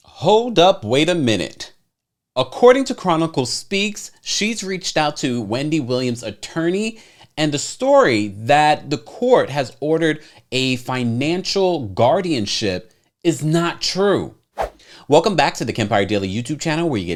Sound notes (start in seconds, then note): 14.6 slide whooshes